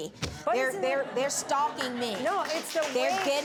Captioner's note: audience laughs; audience clapping